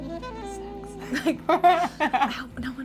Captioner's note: laughing